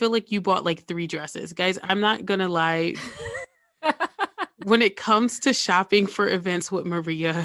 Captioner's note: guilty laugh